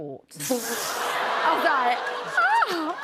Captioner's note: laughter; audience ohhs